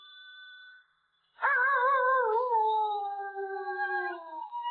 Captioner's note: animal howling